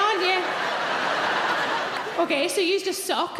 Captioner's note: audience laughing